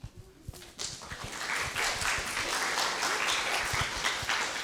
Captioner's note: audience clapping